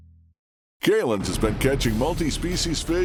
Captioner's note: voiceover